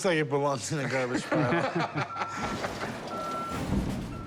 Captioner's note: laughter